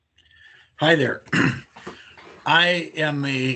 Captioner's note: clears throat